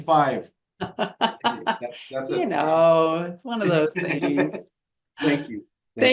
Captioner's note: laughs